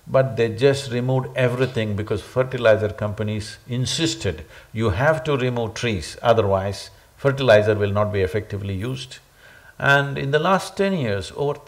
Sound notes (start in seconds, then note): none